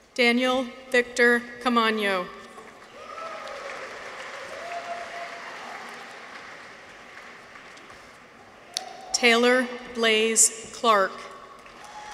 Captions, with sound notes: Daniel Victor Caamano. -(people cheer) -(audience applauds) Taylor Blaze Clark.